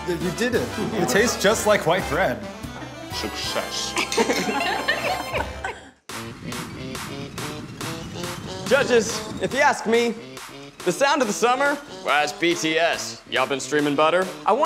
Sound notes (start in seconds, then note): 2.8 judges laughing; 6.6 upbeat music